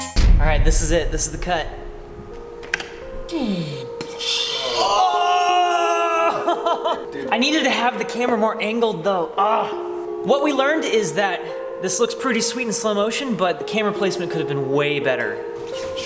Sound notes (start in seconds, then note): 3.4 mimics whooshing; 4.8 group shouting; 9.5 groans